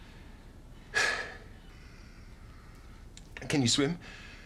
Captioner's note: sighs